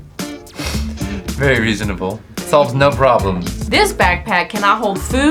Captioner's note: laughs